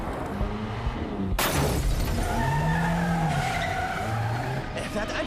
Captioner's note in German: quietschende reifen; hupen